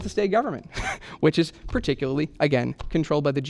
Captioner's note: laughter